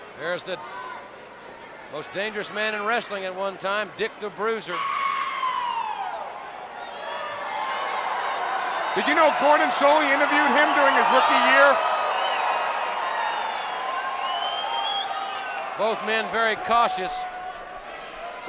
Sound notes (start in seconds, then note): 5.0 crowd howling; 12.7 crowd cheering; 12.7 crowd whistling